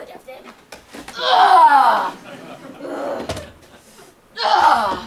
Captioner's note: Cecily grunts